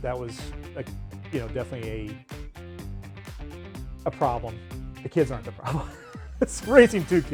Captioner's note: laughs